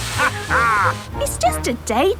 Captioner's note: captain dog laughs